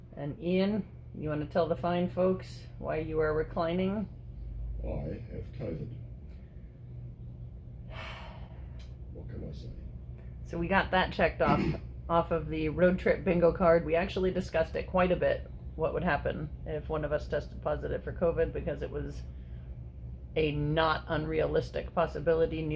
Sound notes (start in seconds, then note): 7.9 world-weary sigh